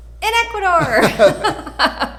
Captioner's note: both laugh